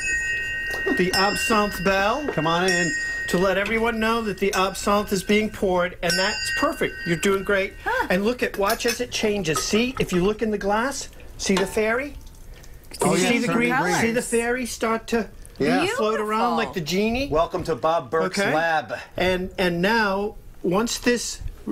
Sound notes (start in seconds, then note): 6.5 chiming